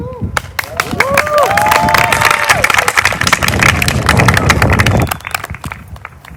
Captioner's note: applause